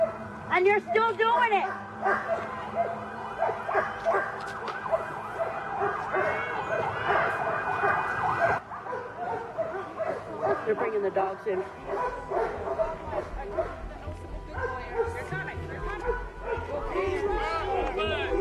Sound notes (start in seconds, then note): 3.7 sirens blaring; 13.1 dogs barking drowning out protestors